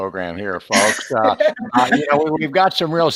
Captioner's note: laughing